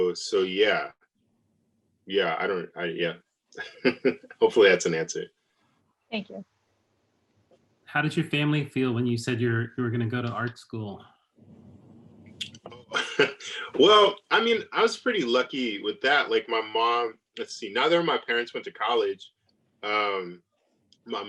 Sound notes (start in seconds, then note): 12.5 laughs